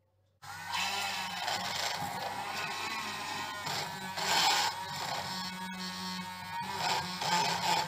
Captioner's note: beating